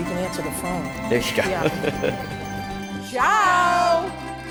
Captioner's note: laughing